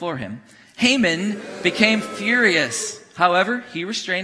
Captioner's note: congregation booing